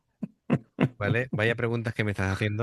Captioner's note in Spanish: risas